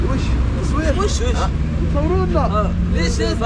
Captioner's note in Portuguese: em outro idioma